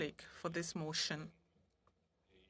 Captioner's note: speaking French